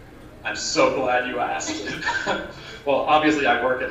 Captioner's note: laughter